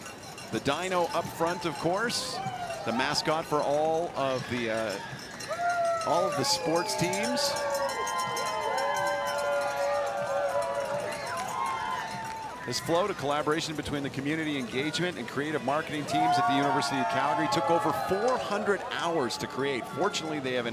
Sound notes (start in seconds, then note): 15.3 cheering and Applause